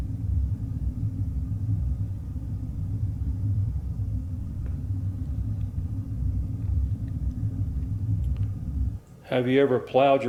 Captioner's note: heavy eerie noise